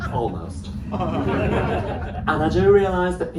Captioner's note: laughter